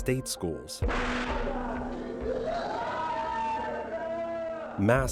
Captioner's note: shouting